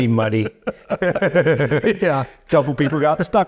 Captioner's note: chuckling